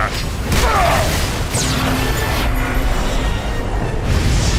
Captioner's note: electrical humming